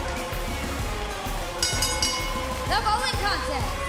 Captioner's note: bell ringing